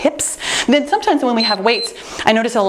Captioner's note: timer beeps